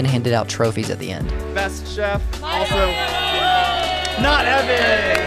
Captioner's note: crowd cheers loudly